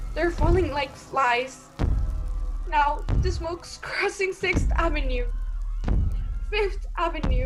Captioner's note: screams and bells fade